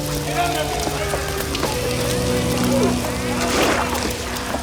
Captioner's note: gang members chatter; water splashes